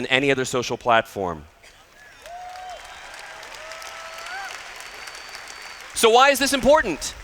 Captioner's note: applause